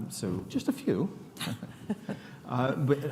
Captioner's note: chuckles